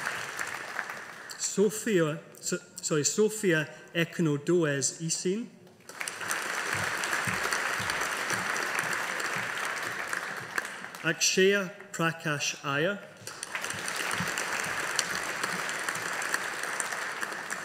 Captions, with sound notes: Sophia Ekinodoese Esene (AUDIENCE APPLAUDING) Akshaya Prakash Iyer. (AUDIENCE APPLAUDING)